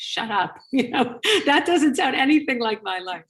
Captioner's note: chuckles